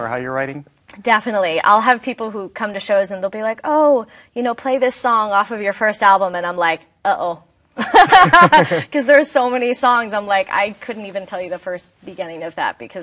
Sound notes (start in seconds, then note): 7.8 both laughing